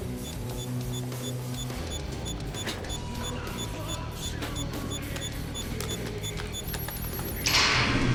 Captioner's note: beeping